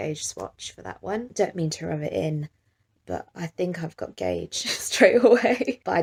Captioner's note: chuckles